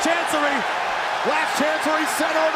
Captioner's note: crowd cheering